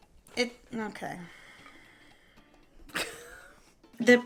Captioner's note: laughs